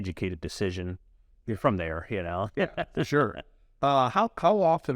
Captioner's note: laughs